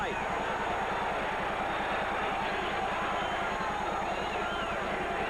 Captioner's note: crowd cheers